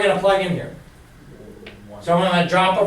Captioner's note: voiceover